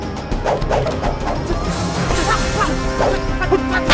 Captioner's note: poles whooshing; tense suspenseful music